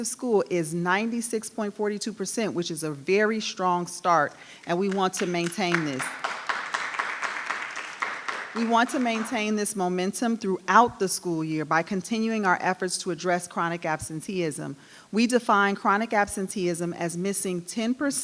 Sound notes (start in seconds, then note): 4.6 audience clapping